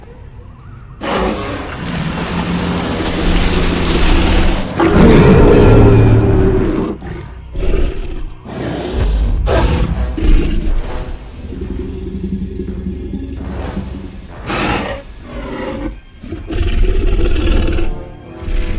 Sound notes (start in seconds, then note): 4.7 T-Rex Sounds